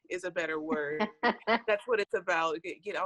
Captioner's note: laughs